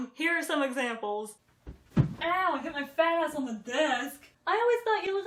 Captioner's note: bump sound